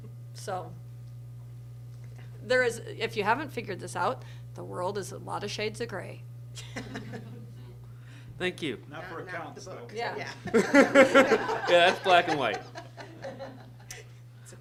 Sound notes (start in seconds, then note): 6.5 laughs; 10.3 laughs